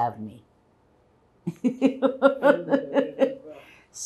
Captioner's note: laughing